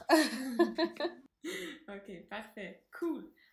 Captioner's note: laugh